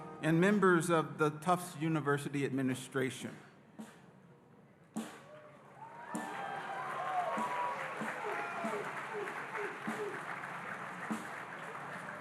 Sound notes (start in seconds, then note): 5.3 audience cheering and applauding